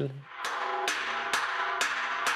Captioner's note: hammering